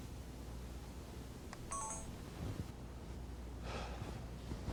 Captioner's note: camera beeps